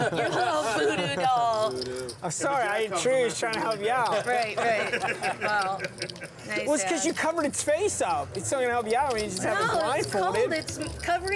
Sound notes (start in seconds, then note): 4.2 laughter